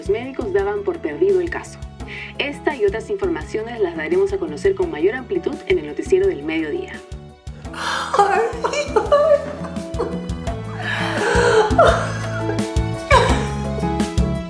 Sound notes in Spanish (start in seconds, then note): 7.7 lloros; 7.8 risas